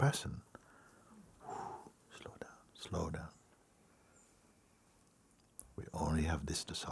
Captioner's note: long exhale